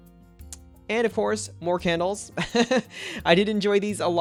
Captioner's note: laughs